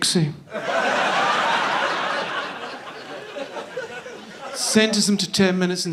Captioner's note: audience laughing